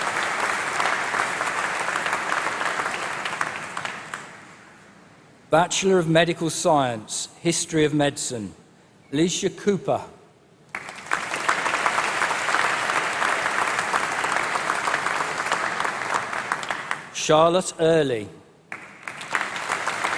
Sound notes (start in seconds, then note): 0.0 applause; 12.4 applause; 18.6 applause